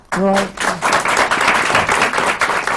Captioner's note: applause